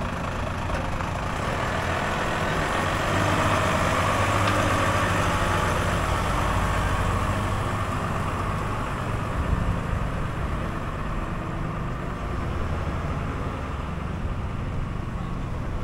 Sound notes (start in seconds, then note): 4.6 engine